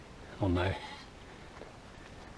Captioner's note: rogue sheep bleat